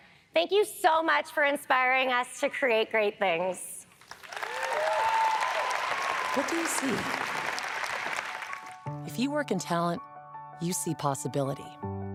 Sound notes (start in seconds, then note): 4.0 audience applauds; 8.7 inspiring music